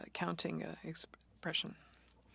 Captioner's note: speaking French